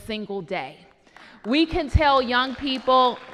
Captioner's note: applause